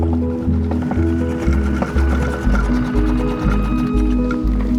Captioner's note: boat engine chugs